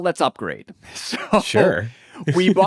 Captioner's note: laughs